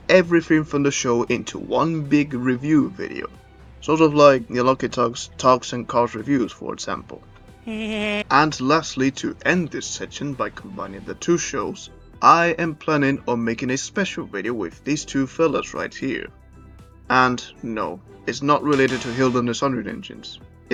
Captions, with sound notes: everything from the show into one big review video, sort of like The Unlucky Tug’s TUGS and Cars reviews for example. (PETER GRIFFIN GIGGLES) And lastly, to end this section by combining the two shows, I am planning on making a special video with these fellas right here. And no, it’s not related to Hilda & the Sudrian Engines;